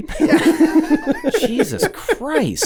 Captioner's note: laughing